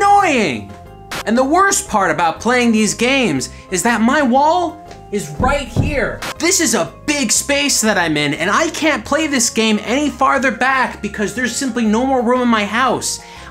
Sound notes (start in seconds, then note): 5.4 slams wall